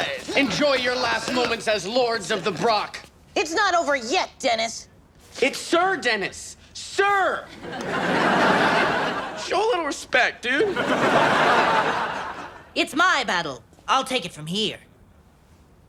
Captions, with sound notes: - Enjoy your last moments as Lords of the Brock. - It's not over yet Dennis! - It's sir Dennis. Sir. (audience laughs) Show a little respect dude. (audience laughs) - It's my battle I'll take it from here.